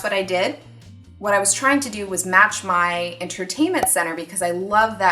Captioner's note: cork pop